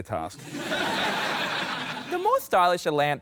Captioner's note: laughter